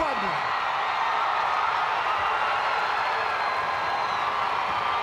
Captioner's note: crowd cheering